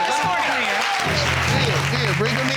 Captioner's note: audience exclaiming